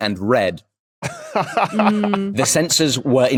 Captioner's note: laughs